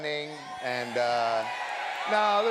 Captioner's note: audience shouting